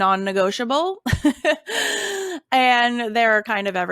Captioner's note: laughing